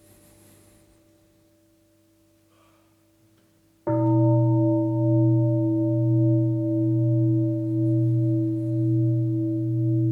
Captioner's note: deep bell sound